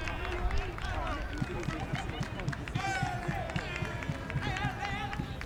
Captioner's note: fans clapping and cheering